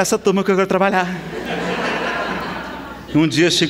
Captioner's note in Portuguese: Risadas